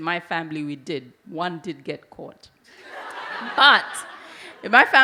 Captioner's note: audience laugh